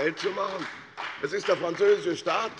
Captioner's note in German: Beifall bei der FDP und bei Abgeordneten der CDU